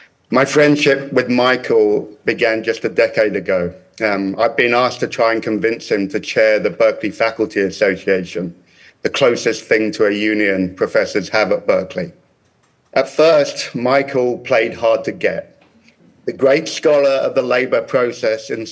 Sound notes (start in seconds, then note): none